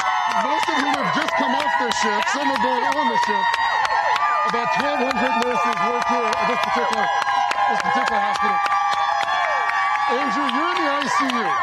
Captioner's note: cheers and applause